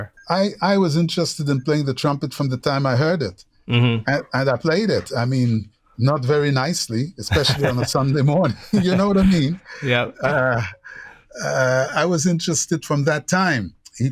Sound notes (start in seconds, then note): 7.2 laughter